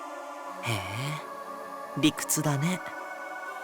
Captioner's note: bemused hum